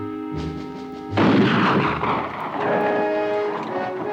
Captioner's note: gun fires